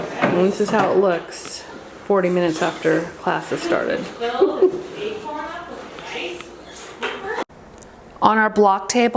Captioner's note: laughing